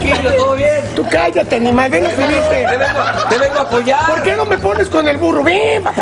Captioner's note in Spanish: risas